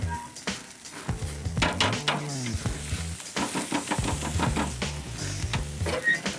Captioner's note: grill opens, steak sizzles; banging sound; grill closes